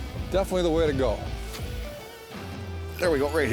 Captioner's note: voiceover